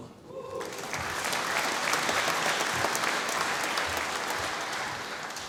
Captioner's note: applause